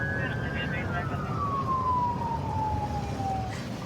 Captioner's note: police sirens blaring; dispatch chatter